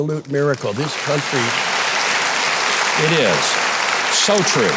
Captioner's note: audience applauding